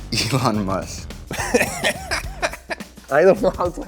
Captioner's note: interviewee laughing